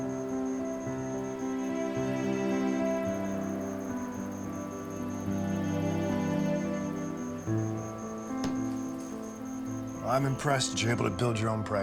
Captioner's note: crickets chirping in distance